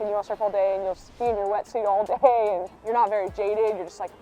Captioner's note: Caroline laughs